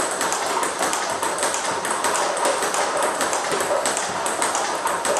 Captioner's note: ball ping pong hitting continues